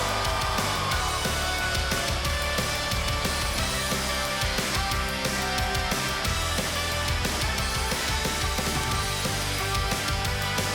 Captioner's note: cheers & applause